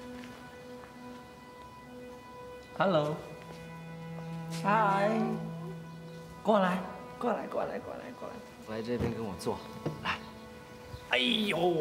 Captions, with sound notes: - Hello. Hi. - Hello. (Ying Zheng in foreign language)